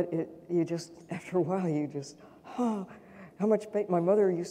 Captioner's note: sighs